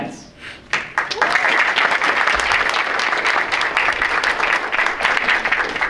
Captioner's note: audience applauds